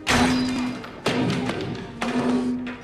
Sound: sign thuds

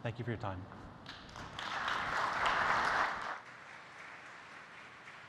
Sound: applause

